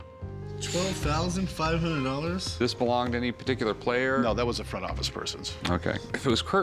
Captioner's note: none